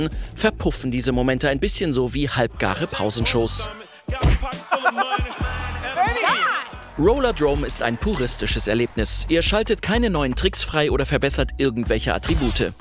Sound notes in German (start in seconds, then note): 3.7 Schlaggeräusch, Lachen; 5.3 Kommentatorenstimmen